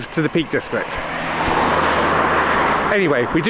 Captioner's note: traffic noise